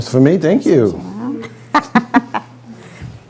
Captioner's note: laughing